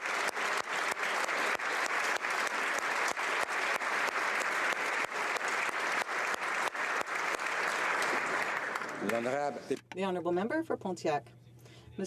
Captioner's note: applause